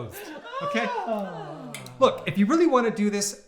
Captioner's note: sighs